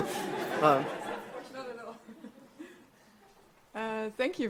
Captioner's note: audience laughs